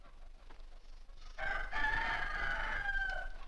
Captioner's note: rooster Crows